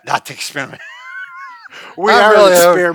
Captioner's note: laughing